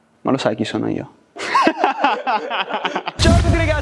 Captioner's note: laughter